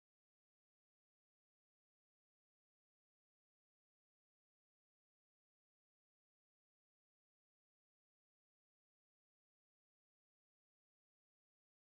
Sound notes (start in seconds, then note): none